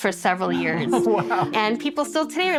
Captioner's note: laughs